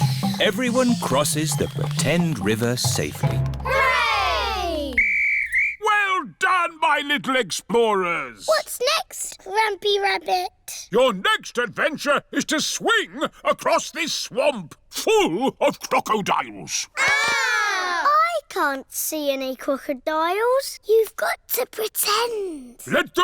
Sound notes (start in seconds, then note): 4.8 blows whistle; 17.0 all scream